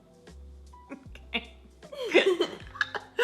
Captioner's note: laughs